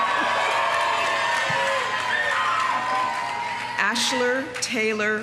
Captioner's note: audience cheering; audience applauding